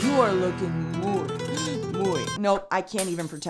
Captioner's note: speaks in foreign language